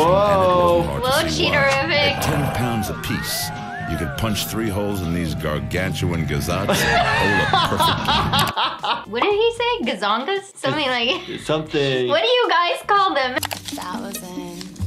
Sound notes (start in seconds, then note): 6.8 laughing